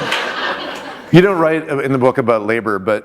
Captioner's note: laughter